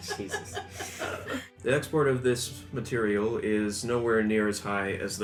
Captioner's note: laughter